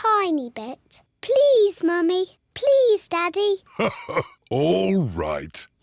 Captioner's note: laughs